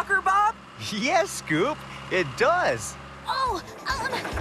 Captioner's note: laughs